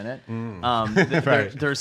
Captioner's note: laughs